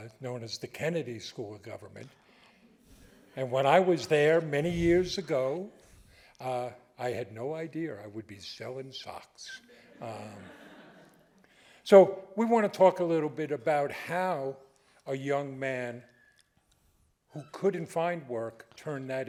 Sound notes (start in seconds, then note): 9.6 audience laughing